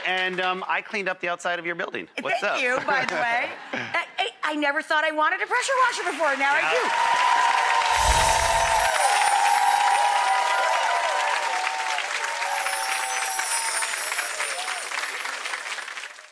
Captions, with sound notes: and I cleaned up the outside of your building. What's up? Thank you, by the way. Hey, I never thought I wanted a pressure washer before. Now I do! (applause) (twinkling) (twinkling)